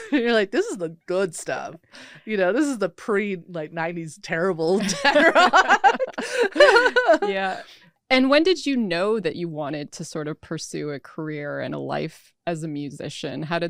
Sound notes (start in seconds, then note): 0.0 laughs; 4.8 people laughing